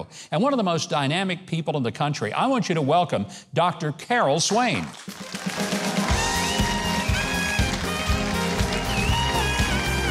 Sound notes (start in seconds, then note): 4.6 audience cheering